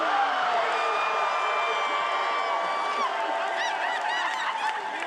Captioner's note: attendees cheering